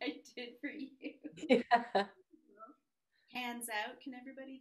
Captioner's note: both laugh